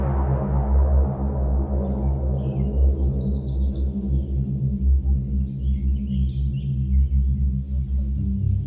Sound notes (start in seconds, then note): 2.2 birds chirping